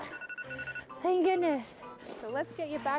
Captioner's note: alarm beeping